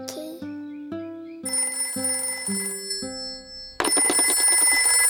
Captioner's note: phone rings